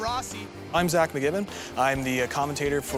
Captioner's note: voiceover